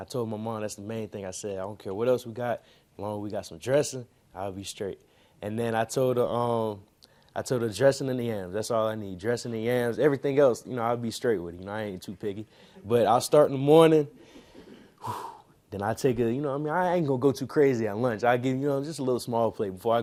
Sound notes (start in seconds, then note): 14.1 breathes heavily